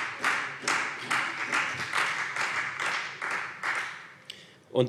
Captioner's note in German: Beifall Freie Demokraten und vereinzelt SPD